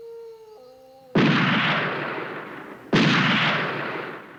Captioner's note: wolf howl; gunshots